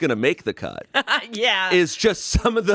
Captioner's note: laughs